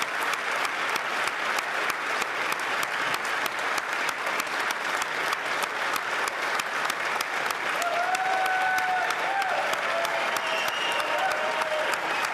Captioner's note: applause